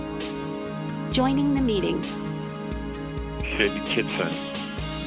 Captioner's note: robotic Voice